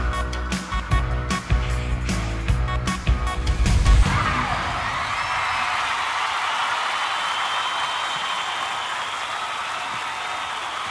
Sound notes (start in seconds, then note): 4.0 applause and cheering